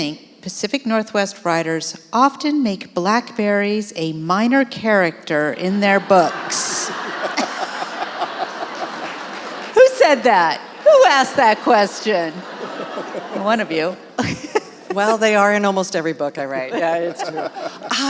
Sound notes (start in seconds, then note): 8.5 audience laughing